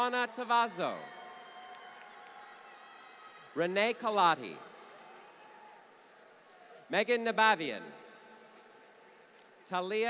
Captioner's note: applause